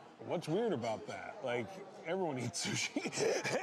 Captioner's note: laughing